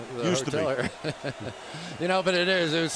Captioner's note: laughing